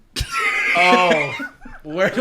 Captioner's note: laughing